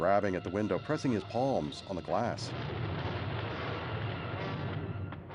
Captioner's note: thunder crashing